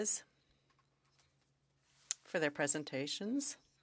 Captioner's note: speaking French